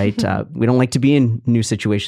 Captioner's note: chuckling